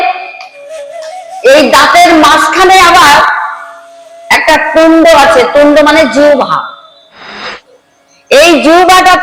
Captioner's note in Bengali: কান্না